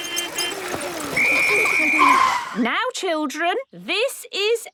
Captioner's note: whistle blowing